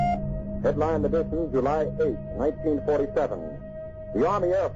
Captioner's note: telegraph beeping Morse code; radio Announcer